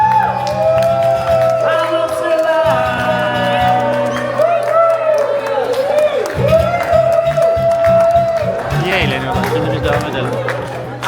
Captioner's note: applause